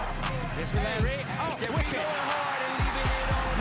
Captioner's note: hip hop music; crowd cheers and applauds